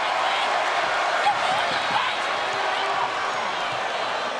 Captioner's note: crowd cheering